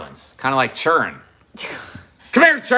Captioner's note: chuckles